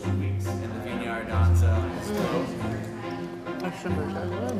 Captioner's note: restaurant staff discussing the menu in the background